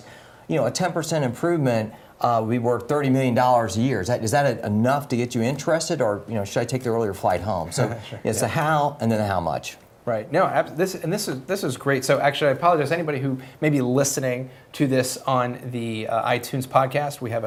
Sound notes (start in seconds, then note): 7.7 laugh